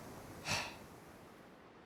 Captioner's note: sigh